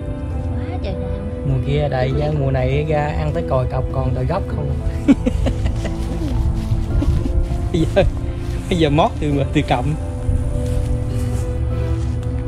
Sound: laughing

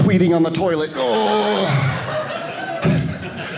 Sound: audience laughing

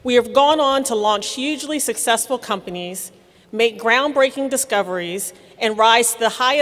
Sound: none

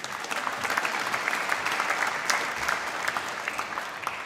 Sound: applause

